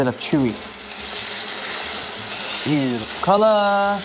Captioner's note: sizzling sound